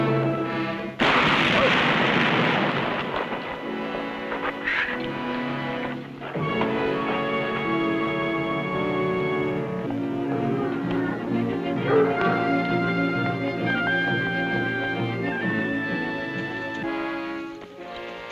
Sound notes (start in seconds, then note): 1.0 gunshot